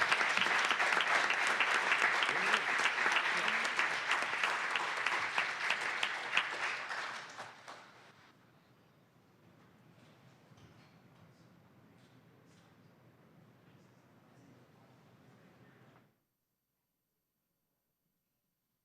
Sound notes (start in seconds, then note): 5.5 applause